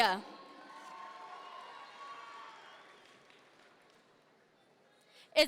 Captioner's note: audience members cheer